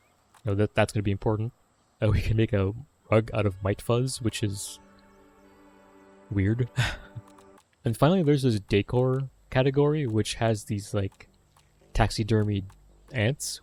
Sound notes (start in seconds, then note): 1.9 chuckling; 6.7 laughs